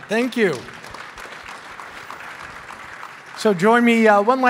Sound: clapping

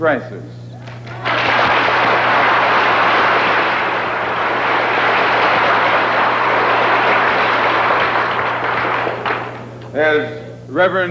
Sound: thunderous applause

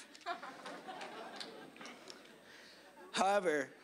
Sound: audience laughing

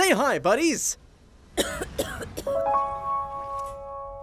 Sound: cough

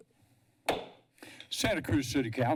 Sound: pounding gavel

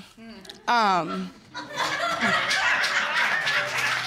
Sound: audience laughing

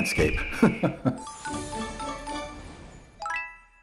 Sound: festive Sounds

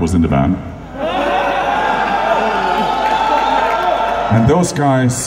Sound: crowd cheering

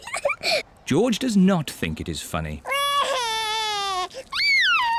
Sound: giggles; cries

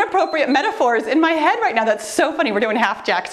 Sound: timer beeps

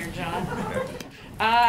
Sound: laughter

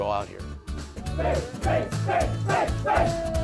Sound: cheering

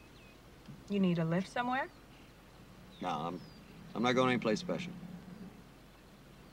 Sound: honking

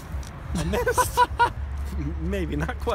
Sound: laughs

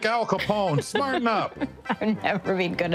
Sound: laughing

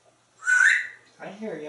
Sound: whistle

